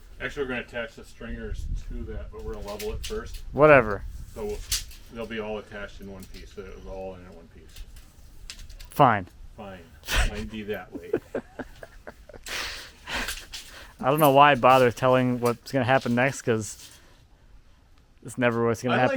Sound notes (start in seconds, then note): 10.0 laughing